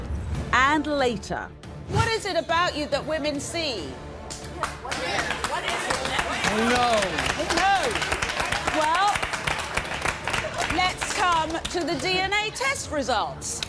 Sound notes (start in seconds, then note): 4.3 applause